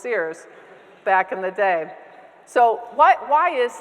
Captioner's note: audience members laughing